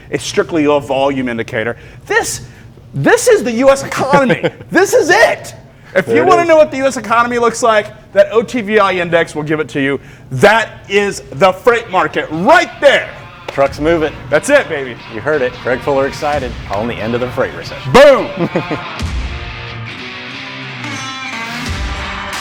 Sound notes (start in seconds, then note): 18.2 laughs; 18.4 percussive rock music